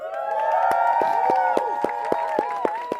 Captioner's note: applause